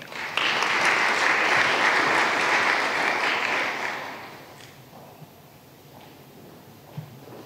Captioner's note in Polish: oklaski